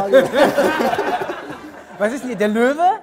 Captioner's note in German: Lachen